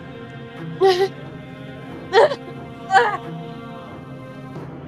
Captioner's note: pain grunt